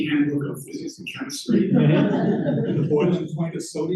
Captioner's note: laughter